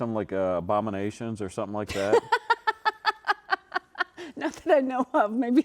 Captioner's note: laughing